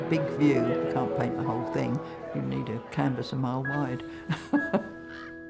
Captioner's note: laughs; music fades